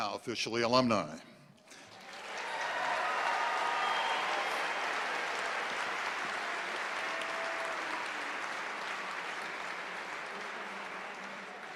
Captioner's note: applause